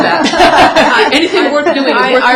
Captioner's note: laughter